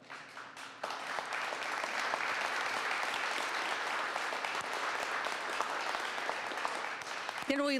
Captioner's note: applause